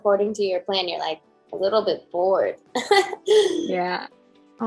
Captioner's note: laughs